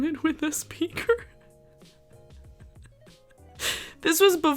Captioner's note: laughing